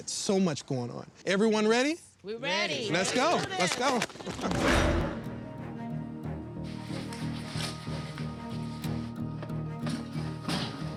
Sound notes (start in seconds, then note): 4.1 applauding; 4.6 dramatic music